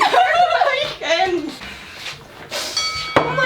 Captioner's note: laughs